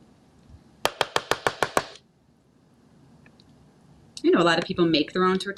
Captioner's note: spoon banging